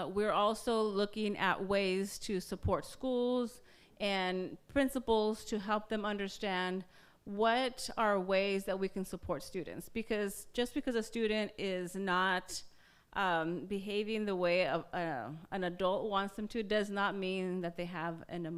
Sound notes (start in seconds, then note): none